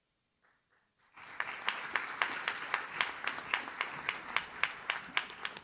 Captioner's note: audience claps